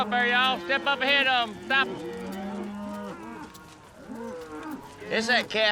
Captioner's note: mooing